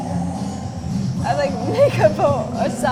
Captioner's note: laughs